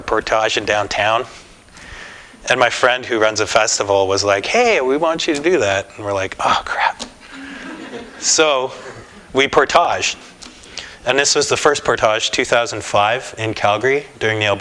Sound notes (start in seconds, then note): 7.3 laughter